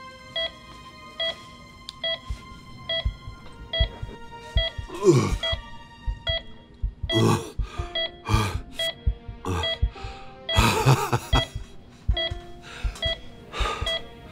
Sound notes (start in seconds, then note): 2.8 heart pounding; 5.0 grunting; 10.5 laughing